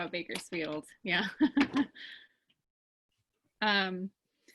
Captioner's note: laughing